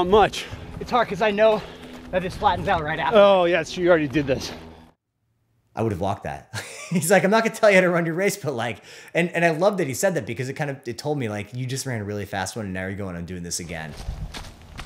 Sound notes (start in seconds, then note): 6.5 laughs